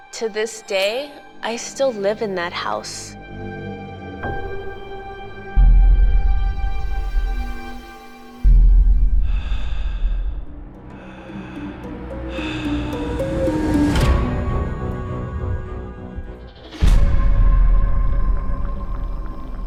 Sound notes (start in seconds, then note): 4.6 mysterious music; 9.1 heavy breathing; 11.9 spooky music